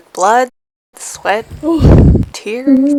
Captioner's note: sigh of exhaustion; incoherent sobbing